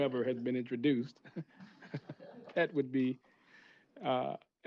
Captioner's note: laughter